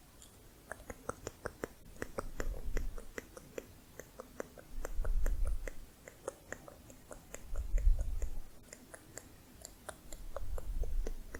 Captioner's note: tongue clicking